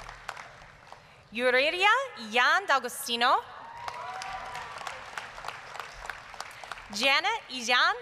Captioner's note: applause; applause, cheering; applause